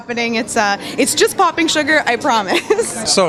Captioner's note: laughing